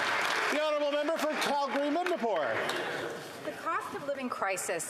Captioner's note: some Applause